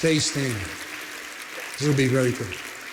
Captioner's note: applause